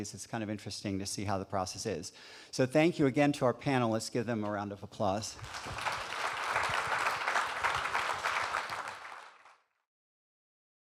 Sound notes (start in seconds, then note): 5.3 audience claps